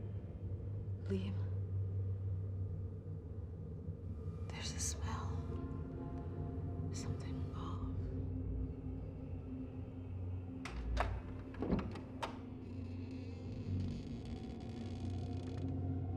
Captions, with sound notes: Liam, there's a smell. Something off. (door creaking)